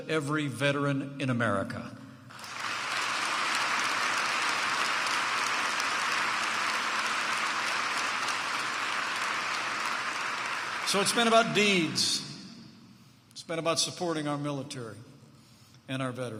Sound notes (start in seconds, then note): 2.3 applause